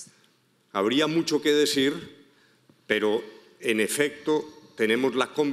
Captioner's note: speaking in foreign language